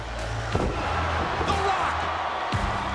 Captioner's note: crowd cheering